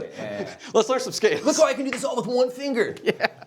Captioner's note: laughing